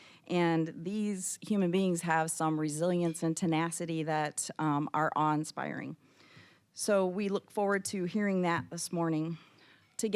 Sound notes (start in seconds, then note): none